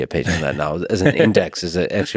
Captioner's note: Tim laughs